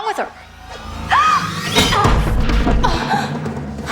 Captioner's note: gasping; tense music